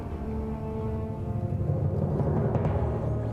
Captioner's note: aircraft noise